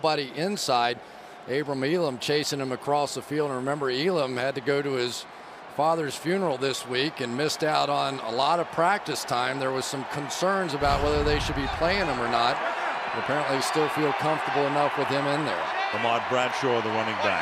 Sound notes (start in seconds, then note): 9.0 crowd booing; 12.4 cheering